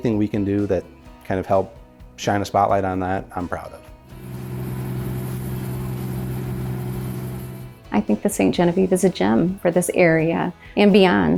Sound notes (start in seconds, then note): 3.9 water splashing; 4.1 engine rumbling